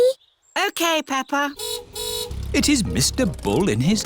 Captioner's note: car horn honks